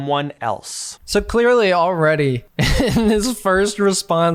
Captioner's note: laughing